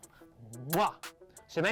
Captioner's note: imitates a kiss